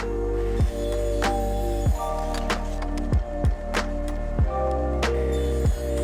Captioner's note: lively music; saw whizzing